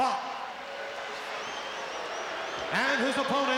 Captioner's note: crowd boos